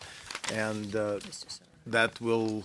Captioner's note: speaking French